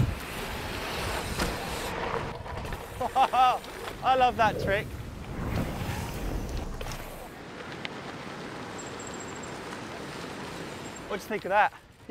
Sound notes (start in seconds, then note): 3.0 laughs